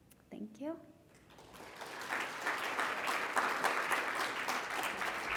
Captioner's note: congregation clapping